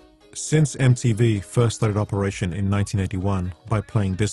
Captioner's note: voiceover